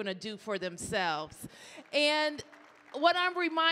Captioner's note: audience cheering